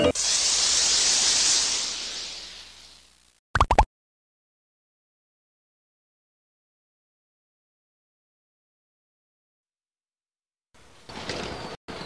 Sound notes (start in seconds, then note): 0.0 hot metal hissing; 3.5 pop